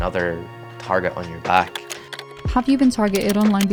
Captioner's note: keyboard clicks